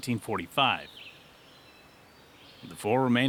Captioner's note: birds chirping